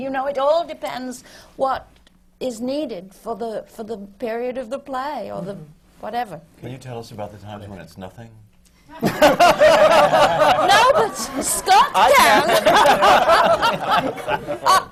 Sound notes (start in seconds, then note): 9.0 laughter